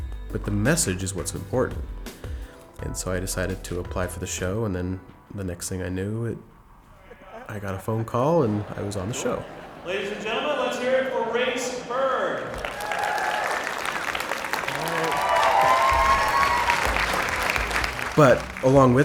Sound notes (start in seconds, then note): 12.0 audience applauds